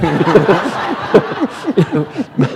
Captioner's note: laughter